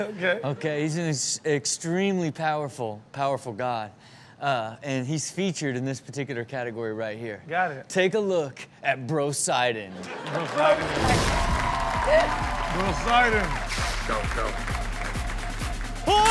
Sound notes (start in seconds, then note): 10.0 audience cheers; 10.2 upbeat rock music